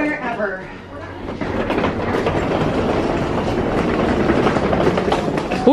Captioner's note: baggage clattering